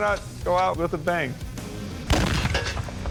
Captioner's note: explosion